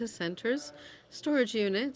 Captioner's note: speaking French